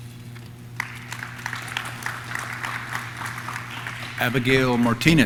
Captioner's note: audience claps